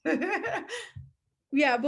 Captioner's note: laughing